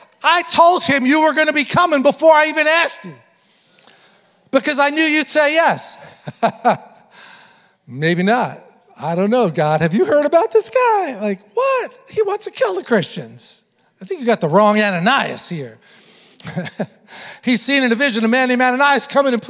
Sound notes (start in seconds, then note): 6.0 chuckles